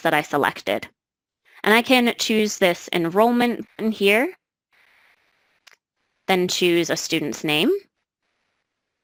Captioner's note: click